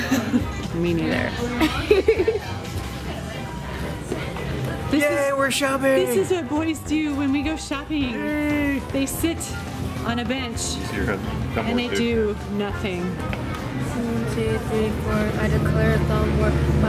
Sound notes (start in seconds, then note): 1.4 laughs